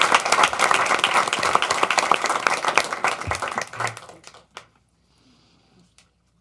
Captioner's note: applause